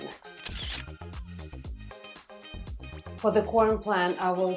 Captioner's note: camera snapping